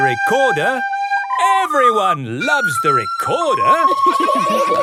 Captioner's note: laughter